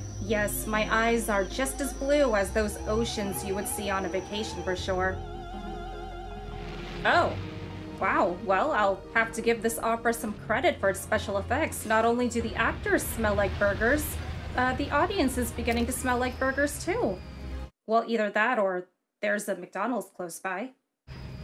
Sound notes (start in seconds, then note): none